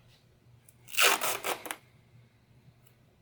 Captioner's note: tape ripping